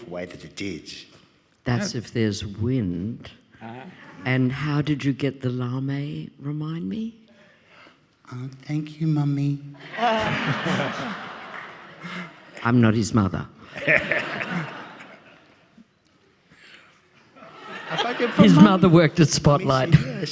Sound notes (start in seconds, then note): 9.8 audience laughing; 14.5 audience laughing